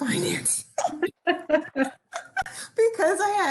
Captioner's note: people laughing